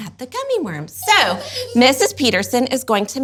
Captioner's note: giggles